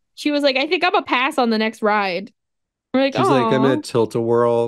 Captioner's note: vom noises